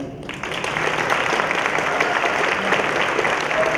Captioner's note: applause